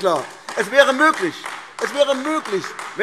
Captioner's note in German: Beifall AfD